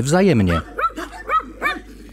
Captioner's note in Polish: Psy szczekają